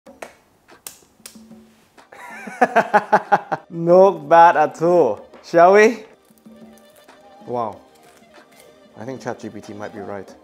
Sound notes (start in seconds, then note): 2.1 laughing